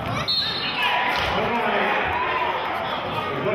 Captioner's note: whistling